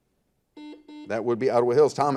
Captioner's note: buzzer